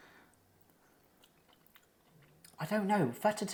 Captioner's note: munching